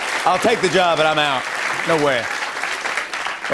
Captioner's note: applause